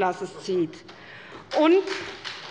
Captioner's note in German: Beifall bei der SPD